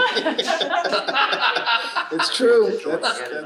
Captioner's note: panelists laughing